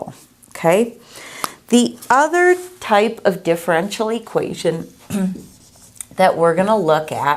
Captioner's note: clearing throat